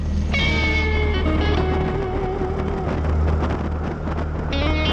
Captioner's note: wind blowing